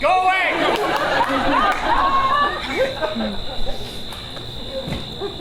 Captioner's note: audience laughs